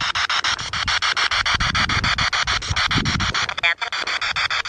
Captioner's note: spirit box sound